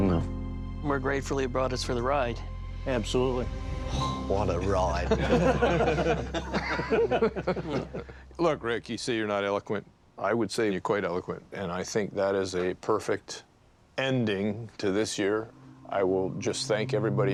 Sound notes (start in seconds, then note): 5.0 all laughing